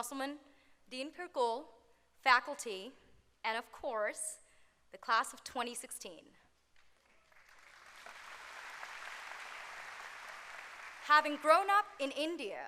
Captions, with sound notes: Good afternoon, President Wildenthal, Provost Musselman, Dean Pirkul, faculty, and of course, the class of 2016. [applause]